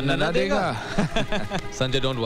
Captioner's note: Laughs